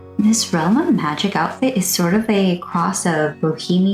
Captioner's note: none